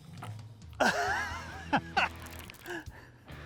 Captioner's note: laughing